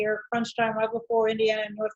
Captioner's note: speaking off mic